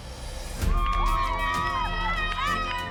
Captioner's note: cheering